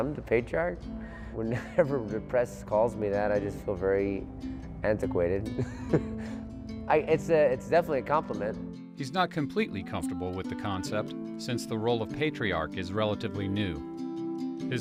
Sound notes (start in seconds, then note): 5.5 laughs